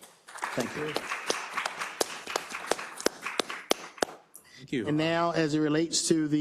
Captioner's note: applause